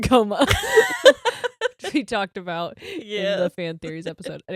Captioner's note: giggles